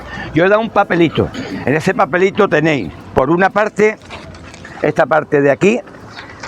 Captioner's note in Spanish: carraspeo